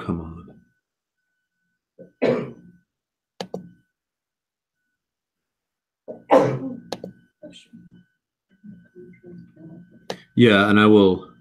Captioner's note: cough